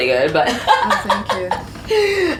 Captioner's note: laugh